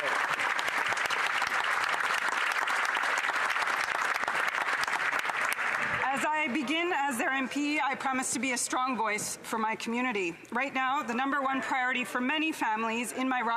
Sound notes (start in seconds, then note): 7.2 some Applause